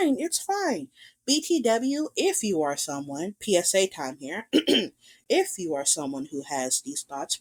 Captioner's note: clears throat